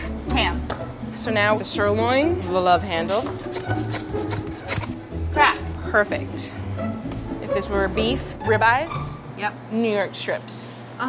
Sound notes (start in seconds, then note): 3.5 meat sawing